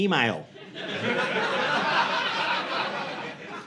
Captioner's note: audience laughing